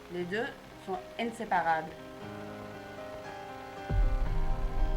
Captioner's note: translator speaking in French